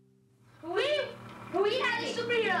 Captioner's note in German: englisch